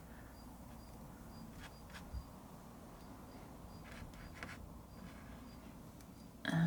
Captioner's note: scratching sounds